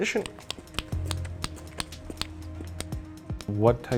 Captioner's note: mouth clicking